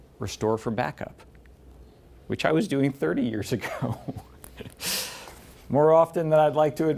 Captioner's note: laughs